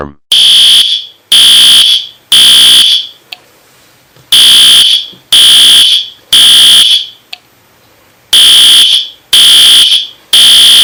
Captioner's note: fire Alarm Sounds